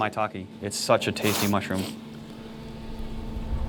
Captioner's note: sniffing